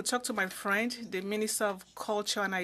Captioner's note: speaking French